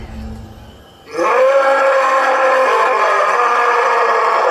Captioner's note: animal roaring